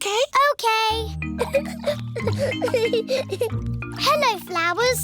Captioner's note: giggling